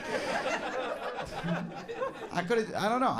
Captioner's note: audience laughs